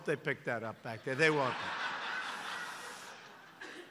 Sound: laughter

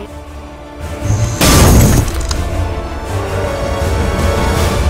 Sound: smashing; dramatic action music

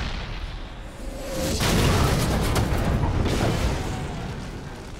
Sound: cannon shot firing; cannon shot exploding; fire crackling

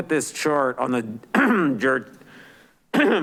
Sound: clears throat

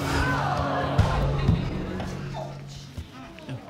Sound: audience exclaiming

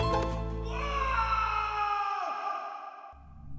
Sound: shriek

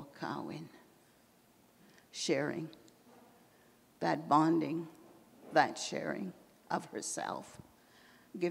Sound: in English

